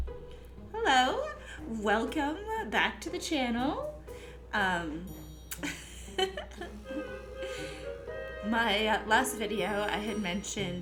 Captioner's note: giggling